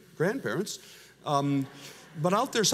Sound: audience laughs

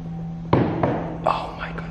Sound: slamming

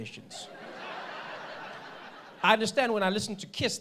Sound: audience laughing

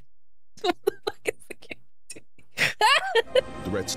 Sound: laughing Quietly

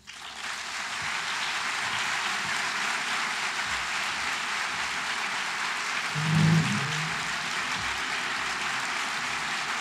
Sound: applause

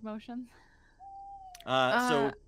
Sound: owl hooting

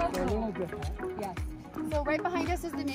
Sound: background chatting

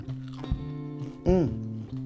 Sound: food crunching

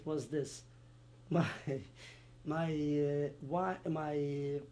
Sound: laughs

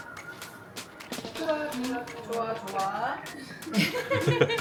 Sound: hahahahaha

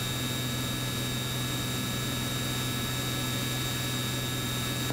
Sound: plane engine buzzing

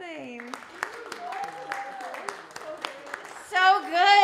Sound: audience cheering and applauding

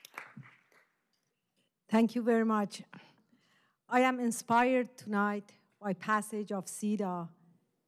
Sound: applause

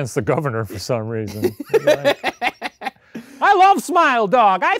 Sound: laughing

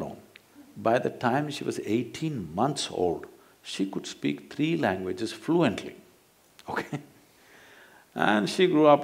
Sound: laughs

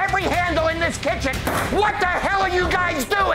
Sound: hits table

